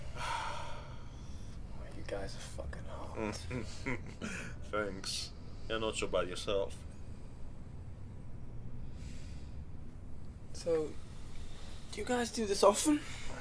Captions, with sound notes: - You guys are fucking hot. (chuckling) - Thanks. You're not so bad yourself. - So do you guys do this often?